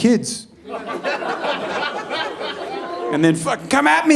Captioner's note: audience laughing